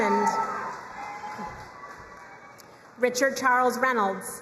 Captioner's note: crowd cheering and applauding